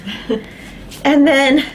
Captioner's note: chuckles in the background